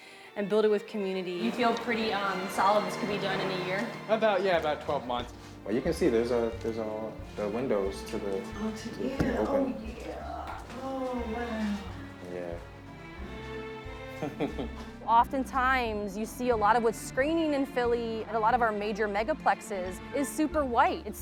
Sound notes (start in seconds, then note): 14.2 laughs